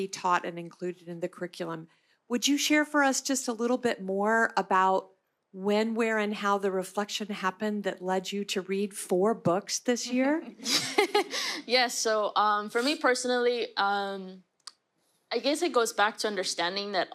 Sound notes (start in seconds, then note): 10.3 laughter